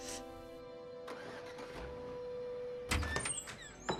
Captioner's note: sniffles; engine starts